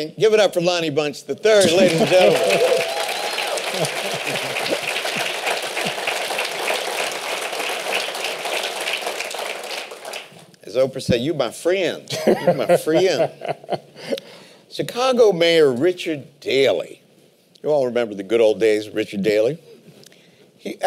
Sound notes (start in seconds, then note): 3.1 applause; 12.1 laughter